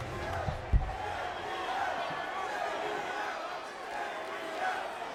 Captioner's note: crowd chanting "JBL"